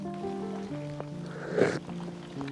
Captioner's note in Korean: 물 마시는 소리